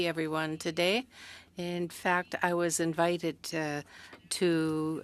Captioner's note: speaking French